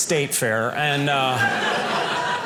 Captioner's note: audience laughing